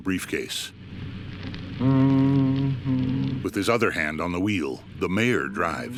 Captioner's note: humming; humming continues